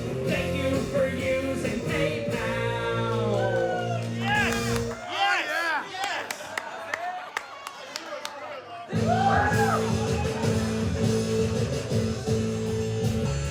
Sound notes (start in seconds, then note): 7.9 laughing; 8.9 rock music